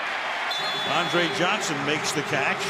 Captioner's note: whistle